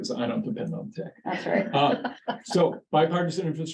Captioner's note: laughs